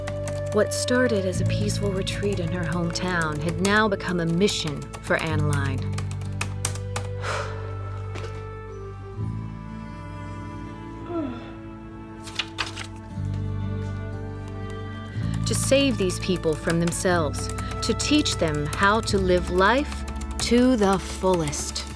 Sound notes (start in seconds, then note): 1.3 typing resumes; 7.1 exhales; 11.0 yawning